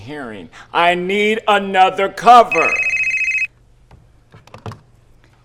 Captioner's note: phone rings; phone receiver clatters